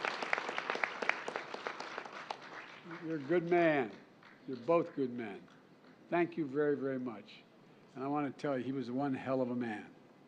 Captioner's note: applause